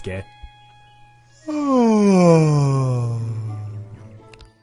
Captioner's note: yawn